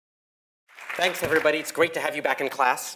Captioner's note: applause